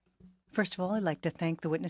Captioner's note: speaking French